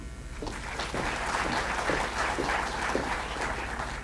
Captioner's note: applause